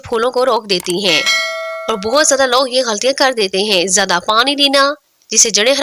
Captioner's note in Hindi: घंटी की आवाज़